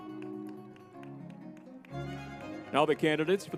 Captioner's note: crowd applauding; lively music